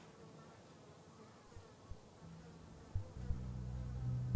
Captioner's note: flies buzzing; eerie music